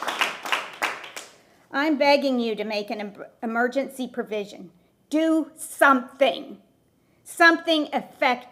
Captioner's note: applause